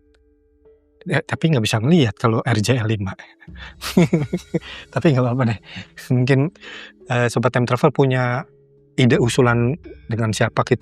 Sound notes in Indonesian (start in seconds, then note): 3.6 tertawa